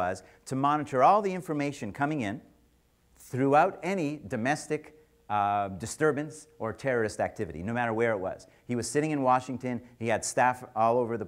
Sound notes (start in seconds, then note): none